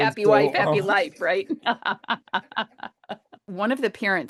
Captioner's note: laughs